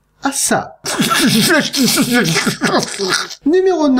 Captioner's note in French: rire étrange